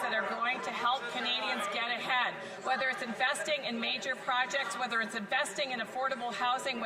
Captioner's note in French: voix de l'interprète